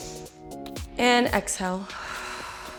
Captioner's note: exhales